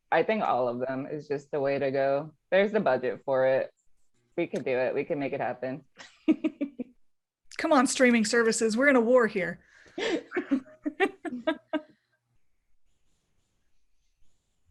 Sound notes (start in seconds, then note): 10.1 laughing